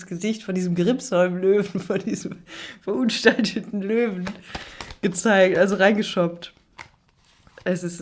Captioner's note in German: gelächter